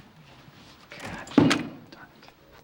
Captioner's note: door opens and closes